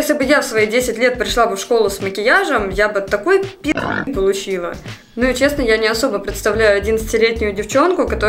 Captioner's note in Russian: хрю